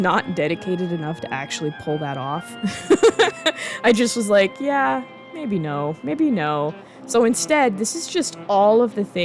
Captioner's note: laughing